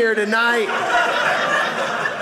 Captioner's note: audience laughing